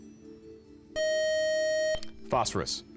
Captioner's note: time up buzzer